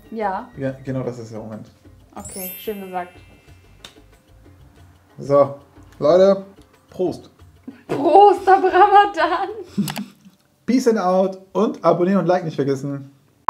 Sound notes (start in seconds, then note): 8.2 laughing